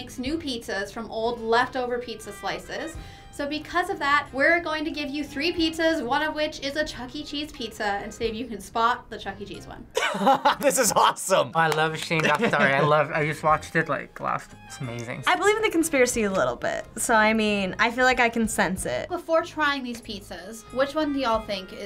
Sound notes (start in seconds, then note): 10.0 laughs